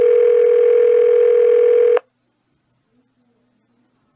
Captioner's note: phone still ringing